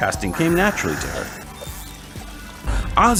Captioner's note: fishing rod reel noises